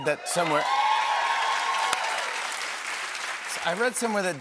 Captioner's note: cheers and applause